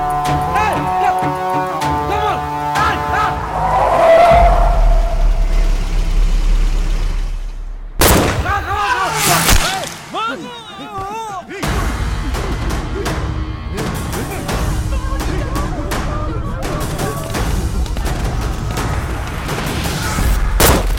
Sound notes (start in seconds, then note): 8.0 gunshot; 14.8 Malay Language